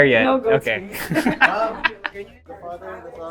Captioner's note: laughs